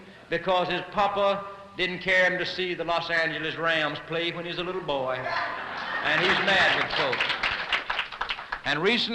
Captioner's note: applause